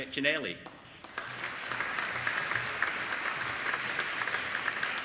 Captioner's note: applauding